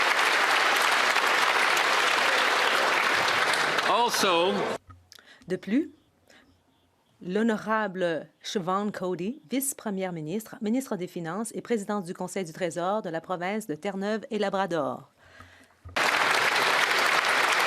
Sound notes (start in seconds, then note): 6.7 applause